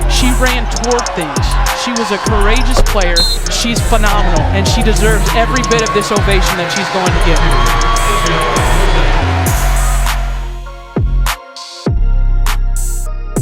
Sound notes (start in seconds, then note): 7.6 crowd cheering; 10.9 rap music